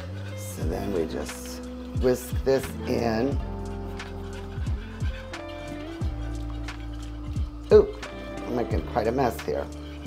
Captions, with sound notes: So then we just whisk this in. (steady music) (whisk scraping) Oo, I'm making quite a mess here.